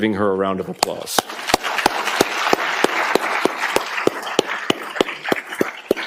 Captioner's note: applause